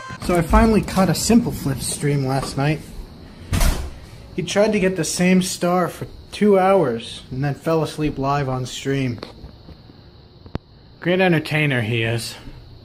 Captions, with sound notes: So I finally caught a simpleflips stream last night *Crash* He tried to get the same star for two hours, and then fell asleep live on stream Great entertainer he is